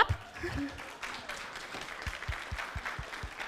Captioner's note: clapping